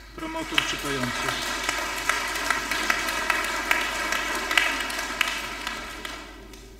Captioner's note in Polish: oklaski